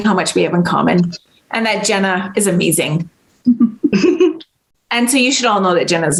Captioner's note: chuckles